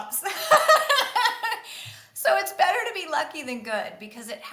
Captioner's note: laughs